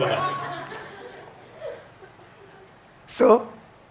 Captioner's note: audience laughs